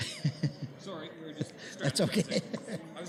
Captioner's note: laughs